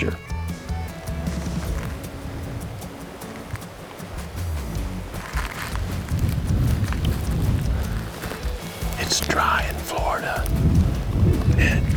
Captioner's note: whispering